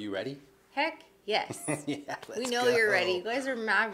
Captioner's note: chuckles